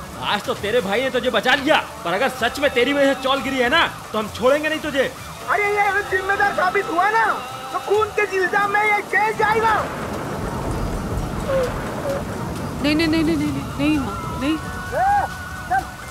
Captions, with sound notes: Your brother saved you today. But if the chawl really collapsed because of you, we won't spare you! If he is responsible for all of this, he'll be put behind bars for murder! [Radhika sobs] No, Mom. No! Hey, come on!